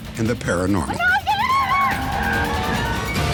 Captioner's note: screaming